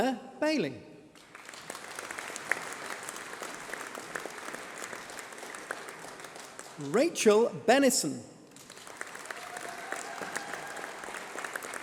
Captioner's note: applause